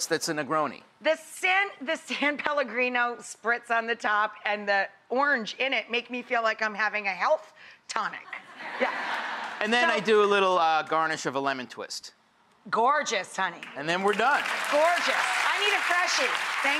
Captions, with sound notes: that's a Negroni. The San Pellegrino spritz on the top and the orange in it make me feel like I'm having a health tonic. Yeah. (audience laughs) So-- And then, I do a little garnish of a lemon twist. Gorgeous, honey. And then, we're done. Gorgeous! (audience applauds) I need a freshie.